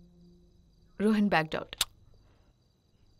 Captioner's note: Clicks tongue